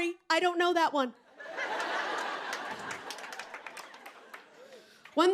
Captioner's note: laughter